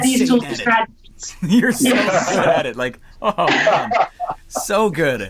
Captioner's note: laughing